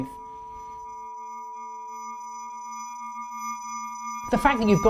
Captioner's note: high-pitched tone ringing